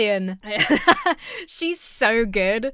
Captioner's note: chuckles